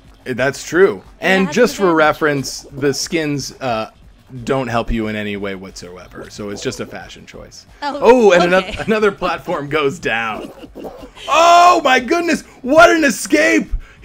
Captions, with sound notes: - That's true. And just for reference the skins, don't help you in any way whatsoever. So, it's just a fashion choice. - Oh, okay (chuckling) - Oh and another platform goes down. Oh my goodness! What an escape.